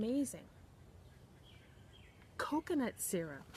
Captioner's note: birds chirping